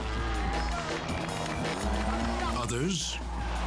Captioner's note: engine revving